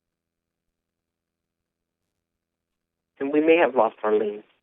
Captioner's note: silence